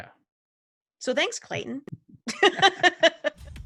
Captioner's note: laughs